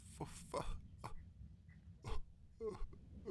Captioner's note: sobbing